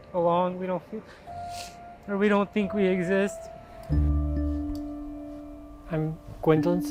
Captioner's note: sniffles